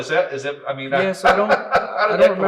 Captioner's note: laughs